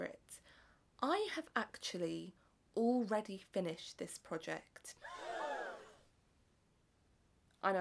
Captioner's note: audience gasps